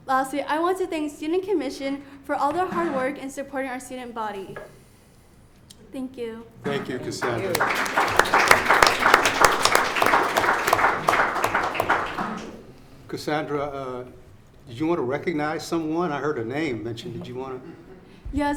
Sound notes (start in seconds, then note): 9.5 audience applauds